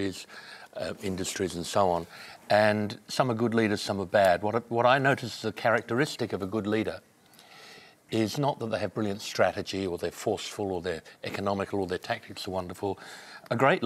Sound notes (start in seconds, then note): none